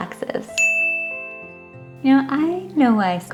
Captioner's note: ding sfx